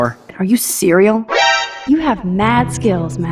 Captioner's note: Detection sound from Metal Gear Solid